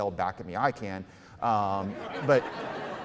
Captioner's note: audience laughing